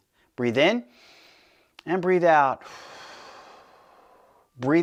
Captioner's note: exhales; inhales